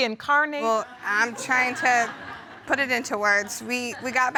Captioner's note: audience laughs